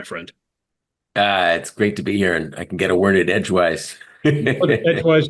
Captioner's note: laugh